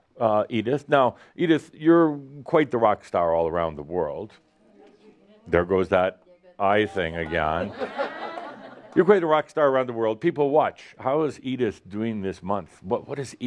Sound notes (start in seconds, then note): 7.3 laughter